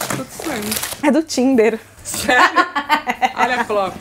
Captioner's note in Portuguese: risos